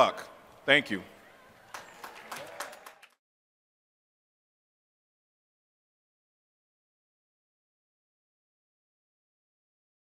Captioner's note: applause